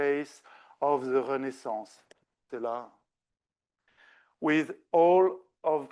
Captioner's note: speaking French